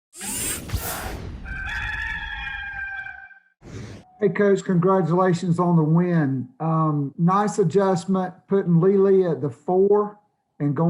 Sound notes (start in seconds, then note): 0.2 logo whooshing in; 1.4 rooster crowing